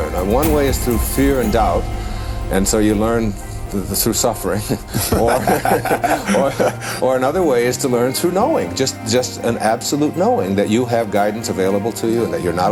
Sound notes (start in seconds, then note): 5.0 laughter